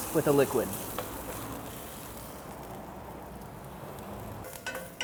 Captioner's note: sizzling